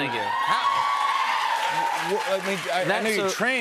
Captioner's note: cheers and applause